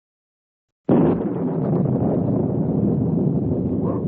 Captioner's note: thunder